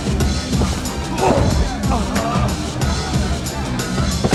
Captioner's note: fighters grunting; thumping hip hop music